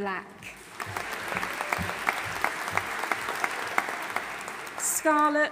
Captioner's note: audience applauding